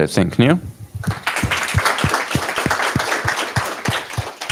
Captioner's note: applause